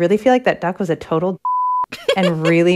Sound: laughter

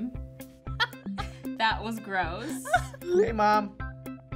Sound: laughs

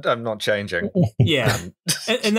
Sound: laughter

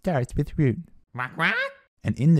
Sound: squawks

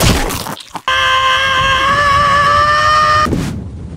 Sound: Zelda screaming

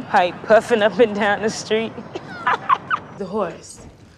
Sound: laughing

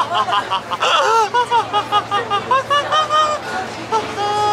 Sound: soprano laughter

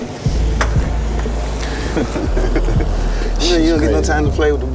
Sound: laughs

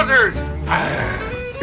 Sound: growls; dog barks

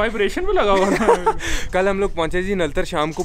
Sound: both of the laughing

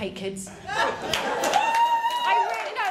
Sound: cheers & applause

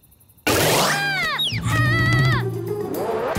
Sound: screaming

